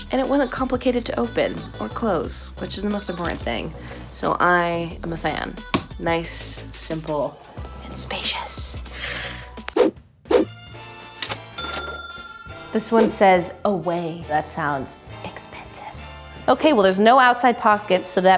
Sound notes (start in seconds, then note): 8.9 gasps; 10.3 swoosh; 11.0 cash register ding